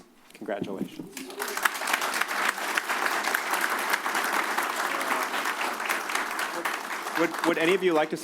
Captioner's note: applause